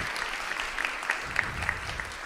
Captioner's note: audience applauds; applause